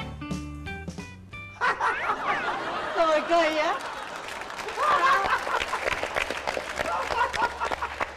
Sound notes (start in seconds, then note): 1.6 laughters; 4.9 claps; 4.9 laughters